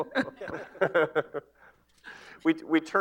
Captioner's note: laughter